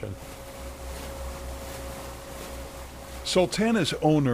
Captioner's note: steamboat whirring